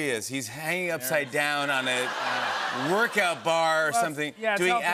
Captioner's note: laughter